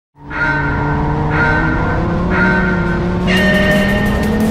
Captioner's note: car engine revs